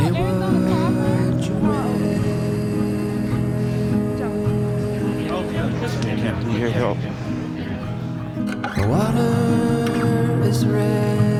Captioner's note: soft melancholic music continues; crowd cheering